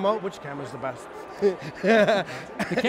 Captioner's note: laughing